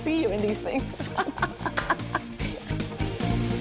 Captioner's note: laughter